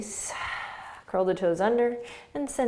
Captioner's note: exhaling